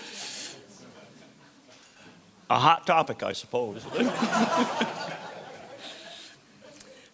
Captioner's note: laughter